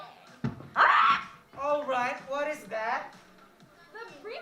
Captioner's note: bang! Squak!